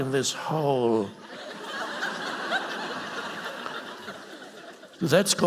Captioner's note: audience laughing